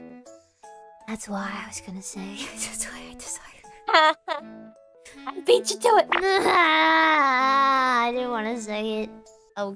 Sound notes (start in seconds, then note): 6.2 cries